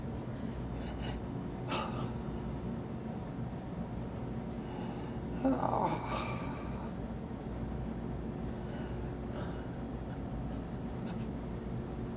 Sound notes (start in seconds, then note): 5.1 sighs